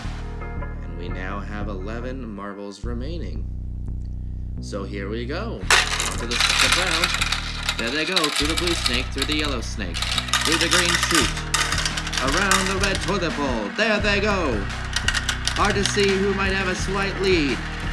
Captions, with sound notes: And we now have 11 marbles remaining. So here we go. (marbles clacking) there they go through the blue snake to the yellow snake. Through the green sticks, around the red toilet bowl. There they go. Hard to see who might have a slight win.